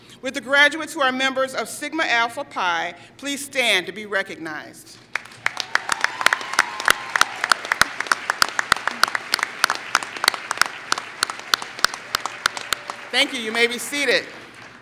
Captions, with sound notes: Will the graduates who are members Sigma Alpha Pi, please stand to be recognized. [Applause] Thank you. You may be seated.